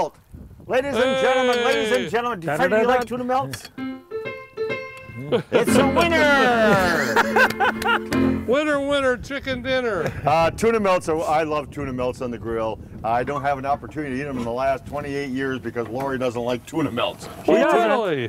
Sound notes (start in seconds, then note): 8.6 laughs